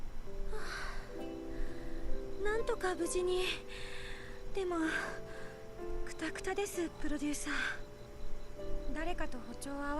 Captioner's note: sigh